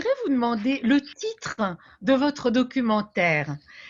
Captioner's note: speaking French